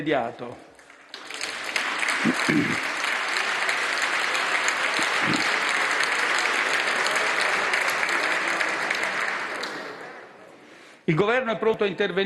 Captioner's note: maxi roar of applause